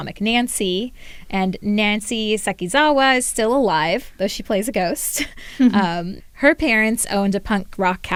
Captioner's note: laughter